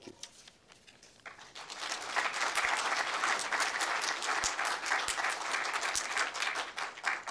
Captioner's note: applause